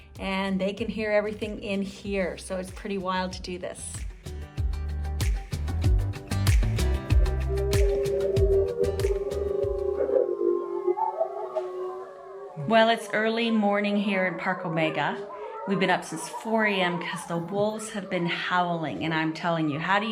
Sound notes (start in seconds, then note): 4.1 dramatic music; 7.4 wolves howling